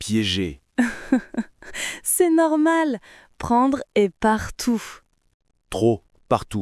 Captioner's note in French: rire